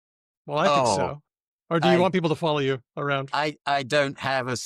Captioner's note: laughs